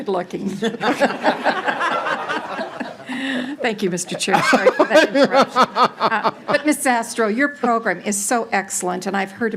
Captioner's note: laughing